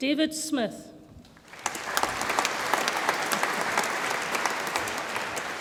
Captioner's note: audience applauds